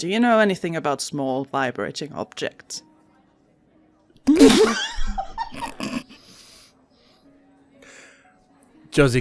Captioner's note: everyone loses it